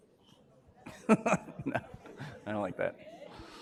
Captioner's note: laughter